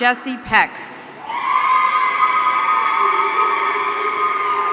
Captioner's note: audience cheering